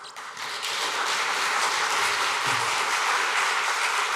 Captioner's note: applause and cheering